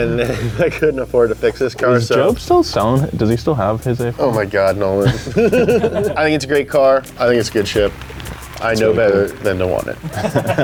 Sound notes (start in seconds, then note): 4.8 laughs; 10.0 laughs